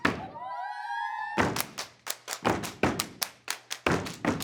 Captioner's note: clapping and stomping